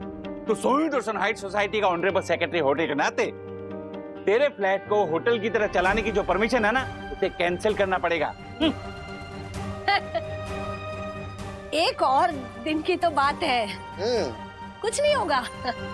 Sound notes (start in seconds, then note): 9.8 chuckling